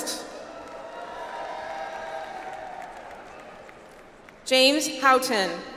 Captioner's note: audience applauds